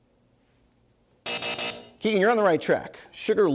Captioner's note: buzzer